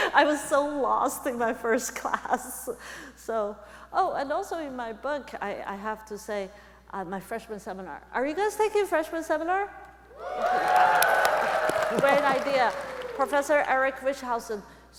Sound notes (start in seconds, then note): 10.1 audience cheering